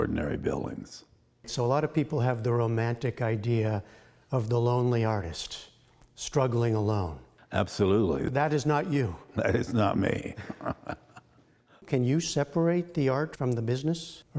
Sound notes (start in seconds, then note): 10.8 laughter